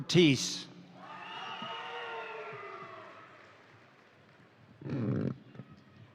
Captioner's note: crowd cheering; crowd applauding